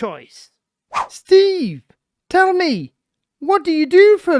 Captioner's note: screen whooshes